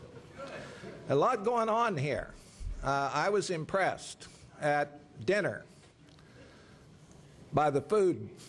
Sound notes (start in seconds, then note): 0.0 laughter